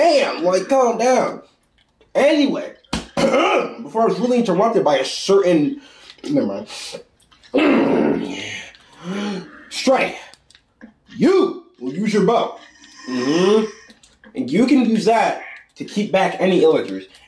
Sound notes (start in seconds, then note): 3.0 clears throat; 7.7 clears throat again